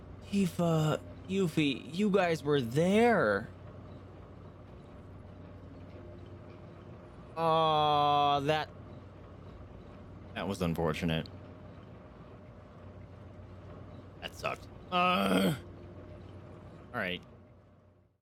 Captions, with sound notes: Tifa. Yuffie... You guys were there!... Awww, that- that was unfortunate... That sucked *groans* Alright...